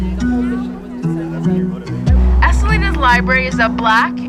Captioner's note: people chatting